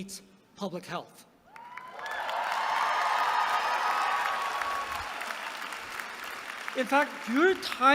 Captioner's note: applause